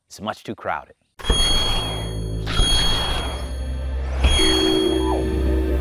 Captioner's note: electronic jingling